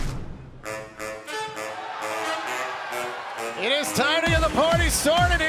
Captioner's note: crowd cheering